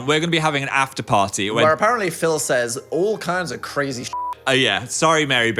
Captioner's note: beep